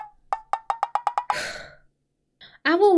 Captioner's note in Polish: westchnienie